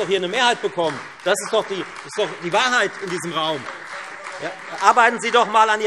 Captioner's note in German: Beifall